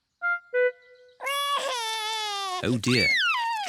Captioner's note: cries